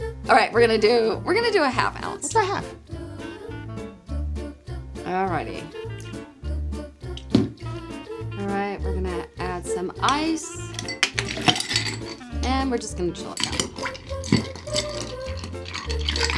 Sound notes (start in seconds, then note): 3.3 upbeat music; 7.1 liquid pouring; 7.2 upbeat music; 10.6 ice clinks